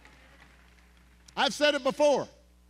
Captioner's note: cheering